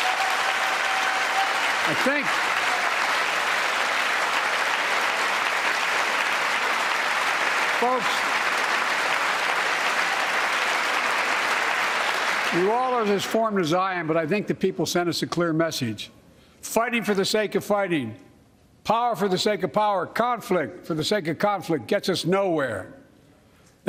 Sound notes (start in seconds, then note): 11.5 applause